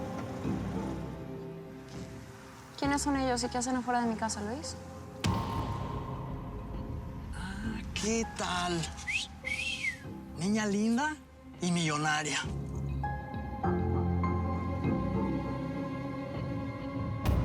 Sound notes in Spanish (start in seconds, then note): 8.9 silbidos